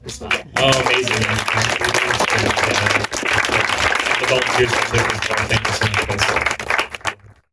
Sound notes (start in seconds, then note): 2.4 applause